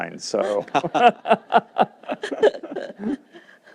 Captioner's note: laughter